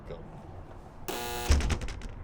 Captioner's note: door buzz